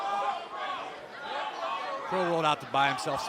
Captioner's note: crowd chatter